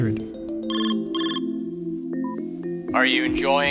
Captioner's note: cell ringing